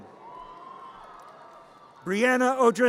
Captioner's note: audience cheers